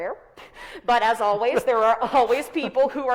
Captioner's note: chuckles